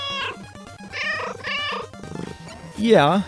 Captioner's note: meow, meow